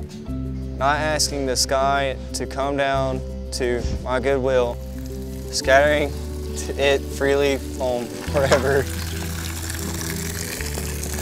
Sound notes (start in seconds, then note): 4.8 sound of cow urinating; 8.1 and crew start laughing, as a cow loudly urinates behind the camera